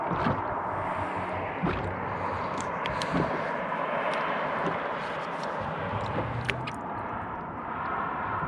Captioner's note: water lapping